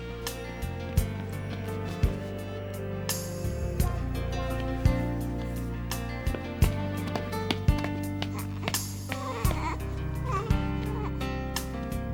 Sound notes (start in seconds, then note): 8.2 baby coos